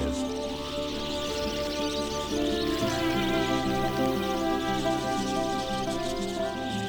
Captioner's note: birds chirping; light music